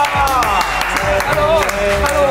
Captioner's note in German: Jubel, Applaus